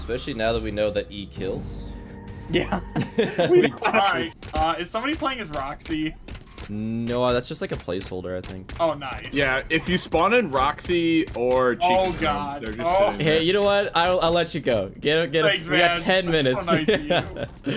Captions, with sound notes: especially now that we know that e kills [all laugh in agreement] - is someone playing as Roxy? no that's just like a placeholder i think - if you spawn in Roxy or Chica they just sit there hey you know what, I'll let you go you have ten minutes